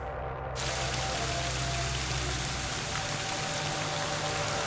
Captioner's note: rain pattering